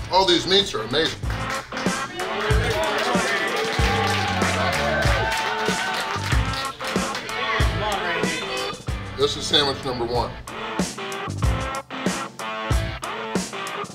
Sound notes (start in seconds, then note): 1.4 upbeat rock music; 1.6 crowd cheering; 6.6 upbeat rock music; 10.9 upbeat rock music